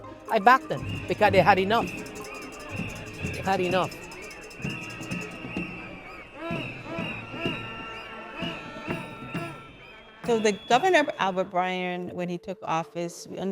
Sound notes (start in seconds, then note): 4.7 drums thumping; 4.7 whistles blowing